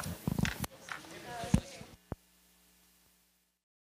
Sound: chattering

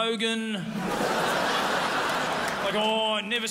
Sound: crowd laughs

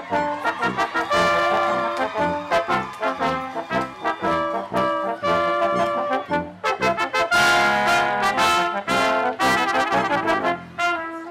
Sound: cheering

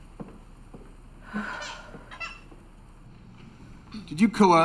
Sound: Sarah sighs

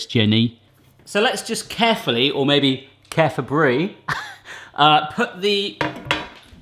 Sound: laughs

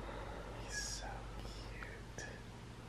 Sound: whispers

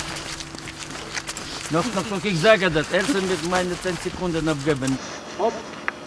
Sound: speaking German

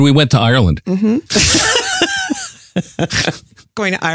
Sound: laughs

